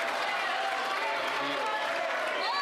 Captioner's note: applause